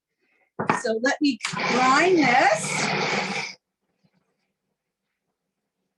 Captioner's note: blender whirring